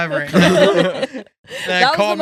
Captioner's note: laughing